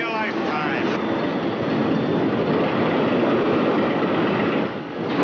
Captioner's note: roller coaster rattling